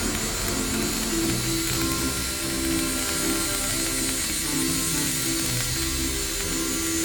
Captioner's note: chill music; laser crackling